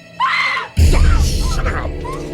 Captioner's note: Maddie screams; suspenseful music